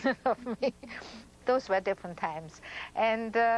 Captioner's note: laughs